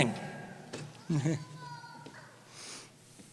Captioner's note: laughs